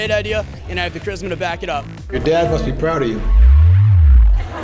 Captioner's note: laughter